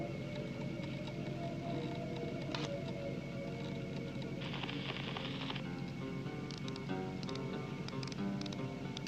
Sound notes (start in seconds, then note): 2.4 click; 4.4 record needle crackle; 6.3 clicking